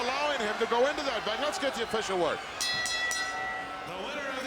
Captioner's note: bell ringing